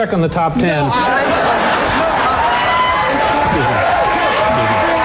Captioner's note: applause